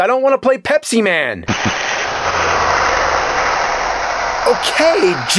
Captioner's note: hisses menacingly